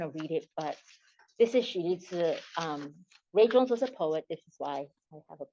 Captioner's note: non-english speech